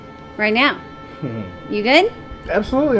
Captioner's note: Ed chuckles